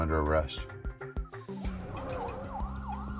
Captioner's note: sirens wail